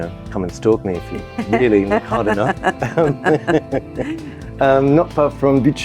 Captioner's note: laughs